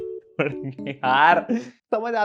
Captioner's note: laughing